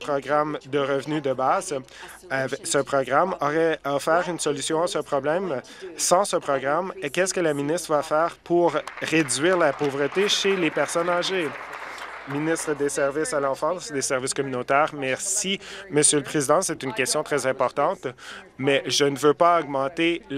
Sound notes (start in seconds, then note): 11.9 applause